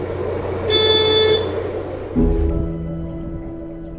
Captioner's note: horn honking; soft music